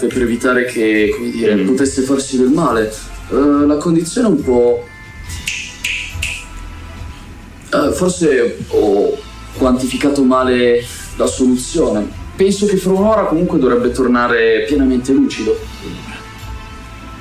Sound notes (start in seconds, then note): 5.3 snaps his fingers